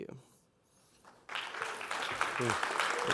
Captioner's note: applause